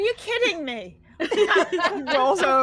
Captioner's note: all laughing